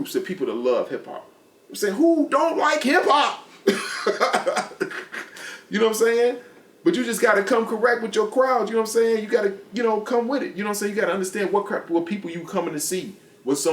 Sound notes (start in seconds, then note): 3.6 laughs